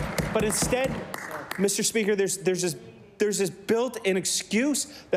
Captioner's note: applause